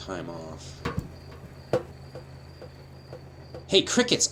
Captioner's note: crickets